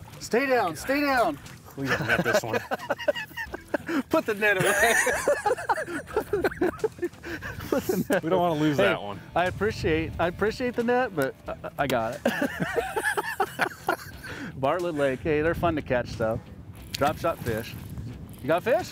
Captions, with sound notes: Stay down! Stay down! -We gotta net this one. [both chuckle] -Put the net away! [both laughing] -We don't want to lose that one! -I appreciate- I appreciate the net but, 'I got it'. Bartlett Lake.. Hey, they're fun to catch, though. Drop shot fish. You got a fish?